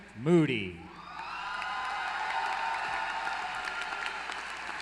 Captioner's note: applause